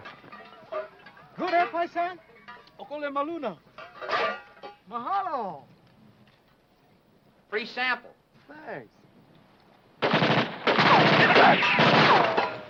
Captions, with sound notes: - Good, eh, paisan? (speaking foreign language) - Free sample. - Thanks. (guns firing)